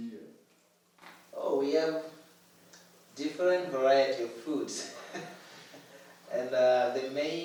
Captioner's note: laughs